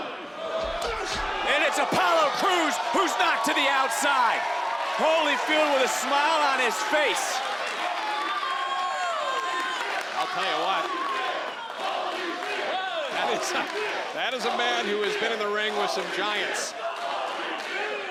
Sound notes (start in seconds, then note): 7.3 crowd chants "Holyfield"